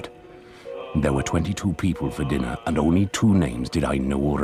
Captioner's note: voiceover